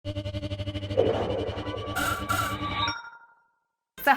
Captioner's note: electronic sounds